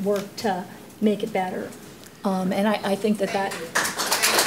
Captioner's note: applause